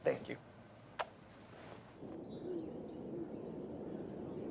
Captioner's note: birds chirping